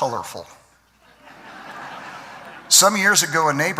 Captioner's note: laughter